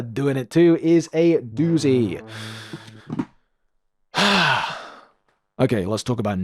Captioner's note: sigh